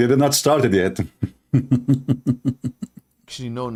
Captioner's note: Ketawa